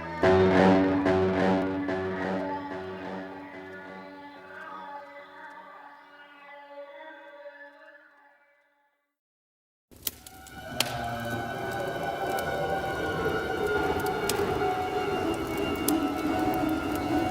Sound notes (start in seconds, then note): 9.9 fire crackling